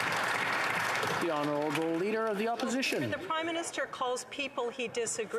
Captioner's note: applause